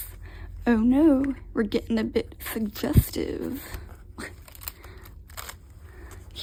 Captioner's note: laughs